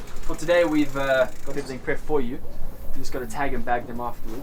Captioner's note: none